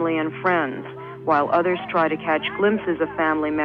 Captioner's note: archival news audio